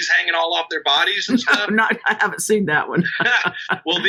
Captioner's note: laughing